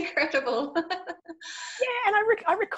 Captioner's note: laughing